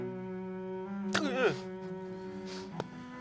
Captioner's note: startled gasp